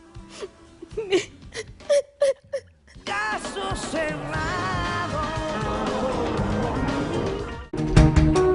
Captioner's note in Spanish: Sollozos